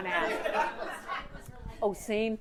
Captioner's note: audience laughing